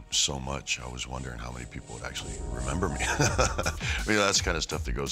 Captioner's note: laugh